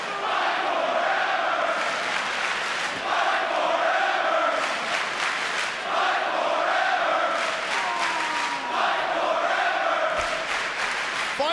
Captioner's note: fans chanting